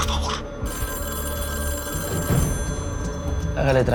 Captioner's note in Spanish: Suena el teléfono